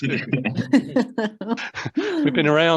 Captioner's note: everyone laughing